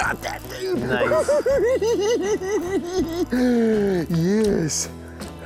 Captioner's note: giggling